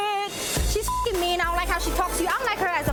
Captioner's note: beep